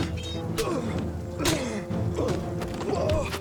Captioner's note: fighters grunting; swords clanging; fist pounds; knee thuds; Orn groans